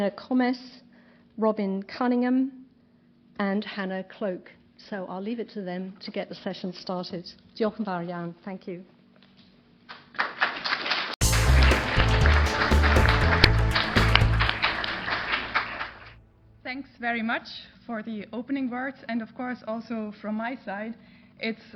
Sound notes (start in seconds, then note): 11.2 applause